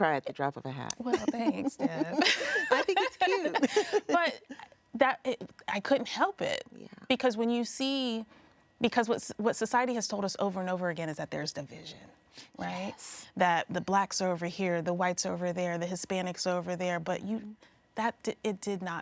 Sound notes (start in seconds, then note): 3.9 laughs